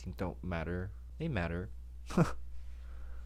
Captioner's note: laughs